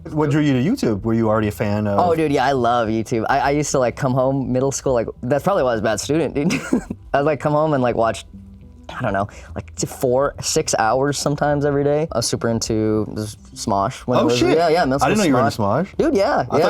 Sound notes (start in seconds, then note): 6.4 chuckles